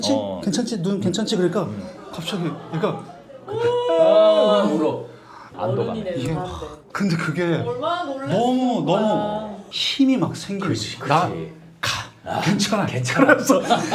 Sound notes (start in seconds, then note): 3.5 his son cried loudly